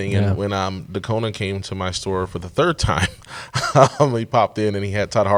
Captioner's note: laughs